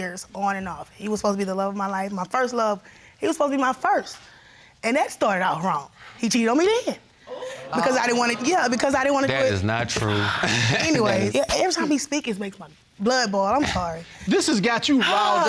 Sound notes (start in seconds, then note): 10.0 chuckles